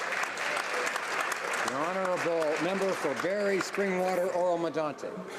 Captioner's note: some Applause